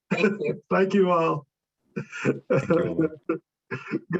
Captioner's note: laughing